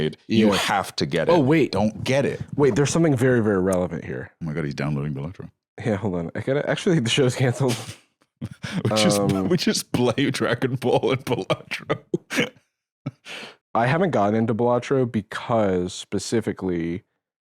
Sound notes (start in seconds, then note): 8.4 laughing